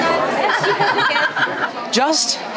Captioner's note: laughter